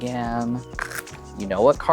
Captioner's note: cards riffling